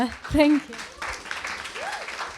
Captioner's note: audience applauds